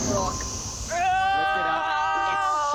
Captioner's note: all groan